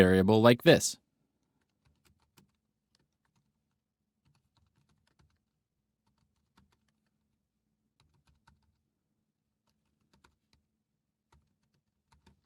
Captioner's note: typing